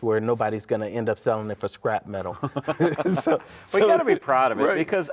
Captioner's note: laughing